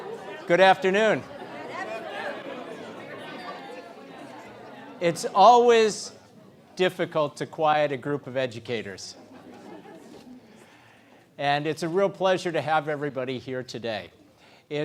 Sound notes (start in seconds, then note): 9.2 laugh